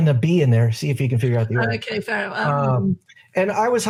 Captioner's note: murmurs